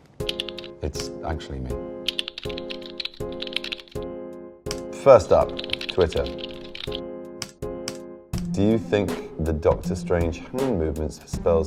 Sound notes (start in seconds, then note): 0.6 gentle music; 2.0 keyboard clicking